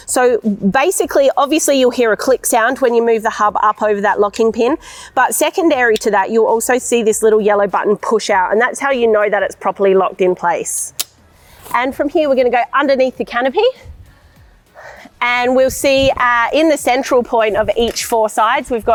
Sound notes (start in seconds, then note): 11.0 locking pin clicks